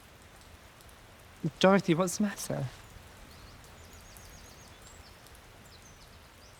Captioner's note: birds chirping